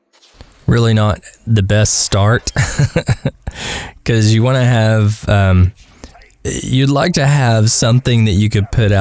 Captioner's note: haha